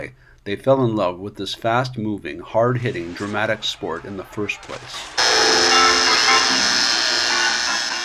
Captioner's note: buzzer